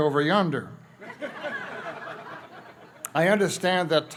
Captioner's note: laughter